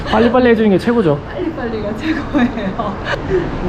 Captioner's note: laughs